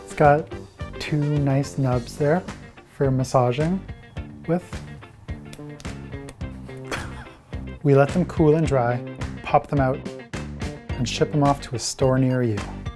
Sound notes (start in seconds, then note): 6.4 laughing; 12.0 upbeat music